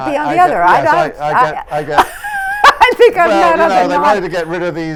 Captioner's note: laughter